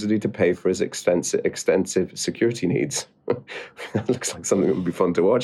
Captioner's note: chuckles